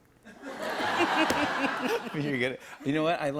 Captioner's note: laughter